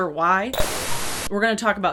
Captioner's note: static